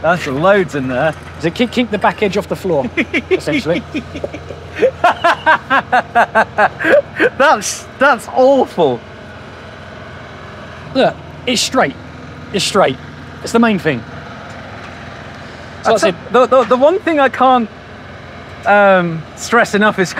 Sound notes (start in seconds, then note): 4.8 laughing